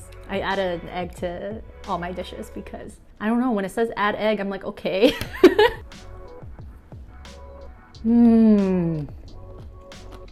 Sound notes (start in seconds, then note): 5.2 laughs